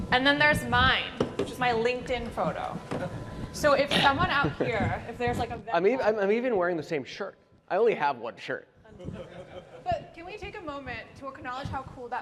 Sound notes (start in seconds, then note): 9.0 laughter